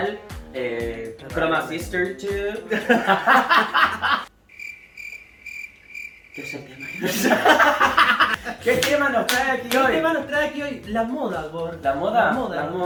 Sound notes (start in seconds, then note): 2.6 laughter; 4.4 crickets; 6.9 laughter